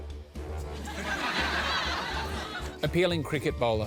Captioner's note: laughter